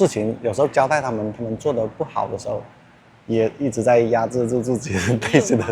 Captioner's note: anger